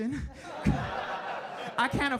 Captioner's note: audience laughing